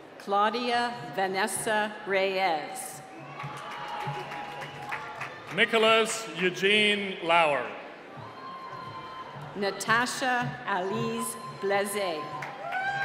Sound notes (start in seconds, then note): 3.2 applause; 12.8 cheering